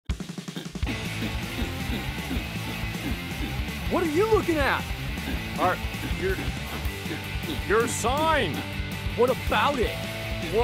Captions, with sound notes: (punk music) (grunting) what are you looking at!? Uh your...your sign! What about it?